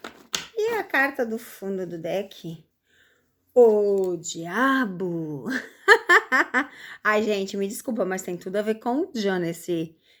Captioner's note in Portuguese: risadas